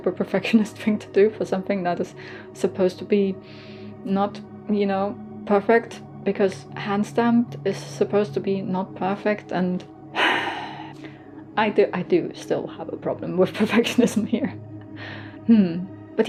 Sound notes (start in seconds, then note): 10.1 heavy sigh